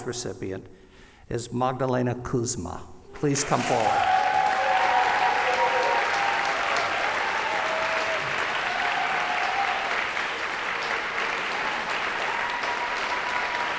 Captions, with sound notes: recipient is Magdalena Kuzma. Please come forward. [CHEERS AND APPLAUSE]